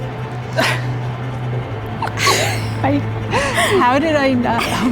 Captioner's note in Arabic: السيدات يضحكون